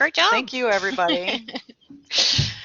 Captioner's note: laughter